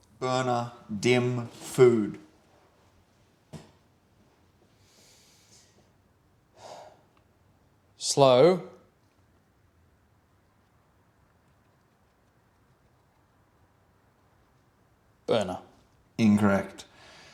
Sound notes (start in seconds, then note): 9.3 sighs